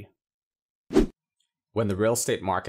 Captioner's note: air whooshing